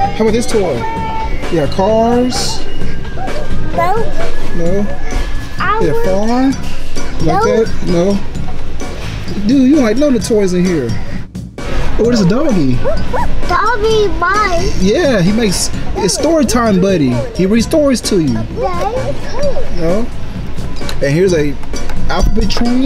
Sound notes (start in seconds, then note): 8.6 funky music; 11.8 funky music; 14.4 playful barking